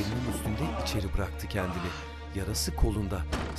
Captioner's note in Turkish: İnleme sesi; Kapı kapanma sesi